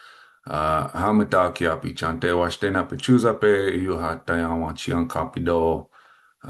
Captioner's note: speaking foreign language